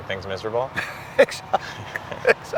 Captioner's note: laughing